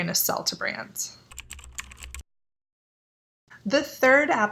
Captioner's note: keyboard typing